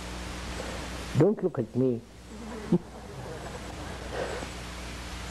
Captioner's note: laughter